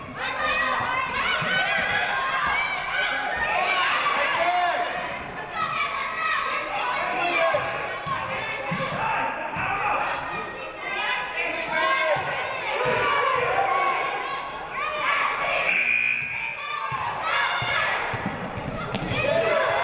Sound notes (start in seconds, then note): 15.6 game buzzer buzzes